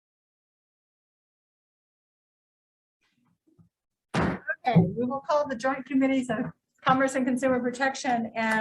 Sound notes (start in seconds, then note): 4.1 gavel slamming